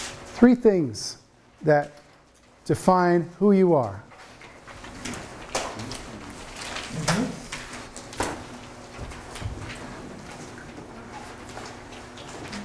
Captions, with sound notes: Three things that define who you are. (papers shuffling)